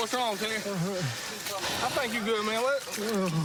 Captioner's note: radio chirps